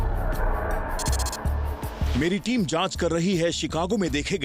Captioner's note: narrating